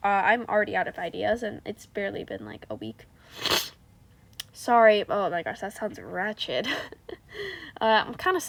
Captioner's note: horrendous sniff